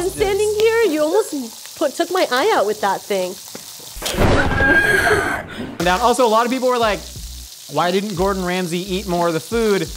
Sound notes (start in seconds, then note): 4.0 thunder